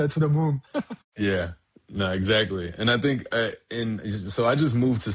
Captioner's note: chuckles